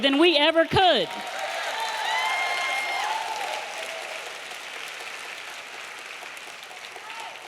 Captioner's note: audience applauding; audience cheering